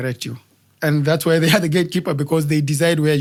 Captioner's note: laugh